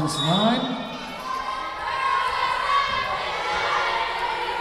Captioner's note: whistle blowing